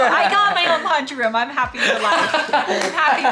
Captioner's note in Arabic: يضحك